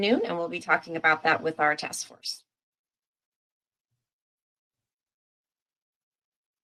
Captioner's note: silence